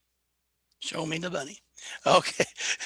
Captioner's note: laughs